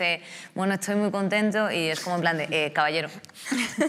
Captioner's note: andalusian accent